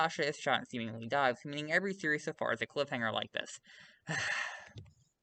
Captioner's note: sigh